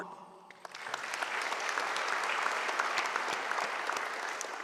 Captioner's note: audience applauding